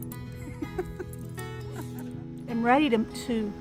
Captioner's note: laughs